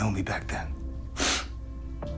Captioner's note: sniff